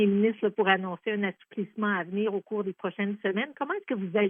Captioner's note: speaking French